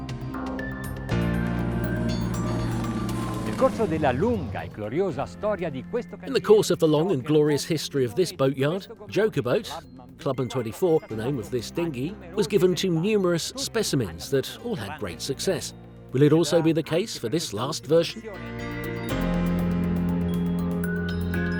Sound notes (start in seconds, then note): 1.8 boat engine roaring; 3.6 speaking foreign language; 18.9 soft music